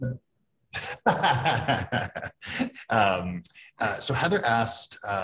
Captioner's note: laughing